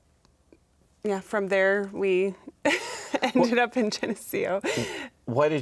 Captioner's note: chuckling